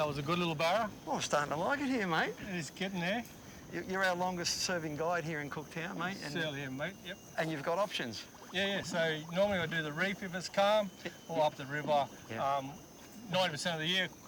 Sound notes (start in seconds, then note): 8.5 wildlife squawks